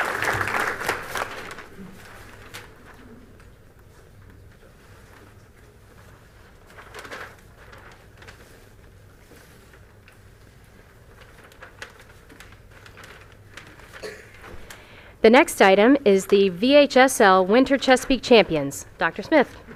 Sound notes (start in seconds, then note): 0.0 applause; 4.2 paper rustling